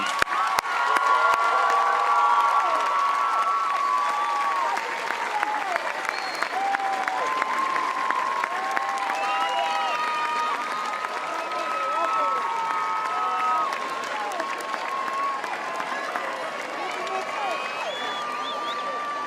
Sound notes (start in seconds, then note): 3.5 cheers and applause